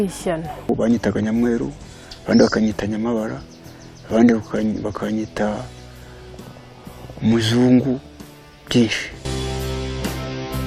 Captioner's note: speaking in Kinyarwanda